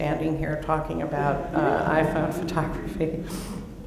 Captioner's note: laughter